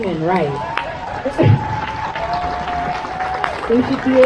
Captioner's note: crowd cheers